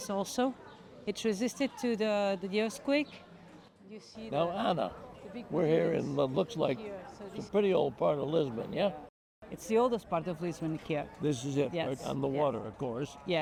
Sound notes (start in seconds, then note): none